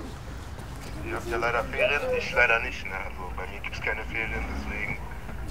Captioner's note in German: Mann am Telefon